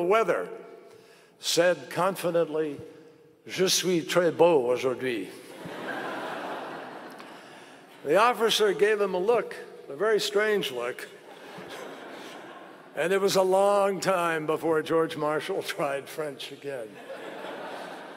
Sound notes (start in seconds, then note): 5.5 laughter; 10.9 laughter; 16.9 laughter